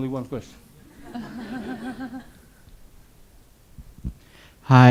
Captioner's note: audience laughs